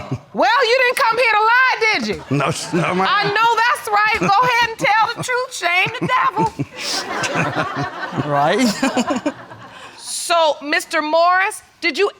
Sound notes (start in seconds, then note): 6.7 audience laughing; 8.8 chuckling